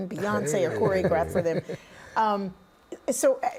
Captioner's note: laughing